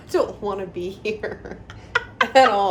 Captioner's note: laughter